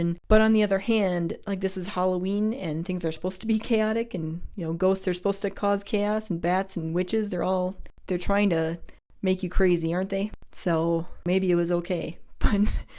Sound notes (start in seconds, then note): none